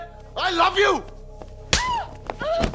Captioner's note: Slaps; Meher groaning